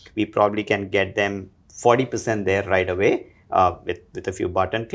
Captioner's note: none